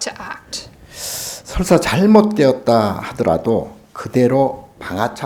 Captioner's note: speaking Korean